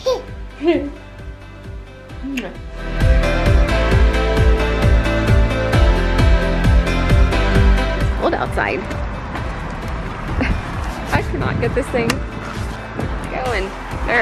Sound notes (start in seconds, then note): 0.1 laughing; 3.0 upbeat music; 10.3 laughing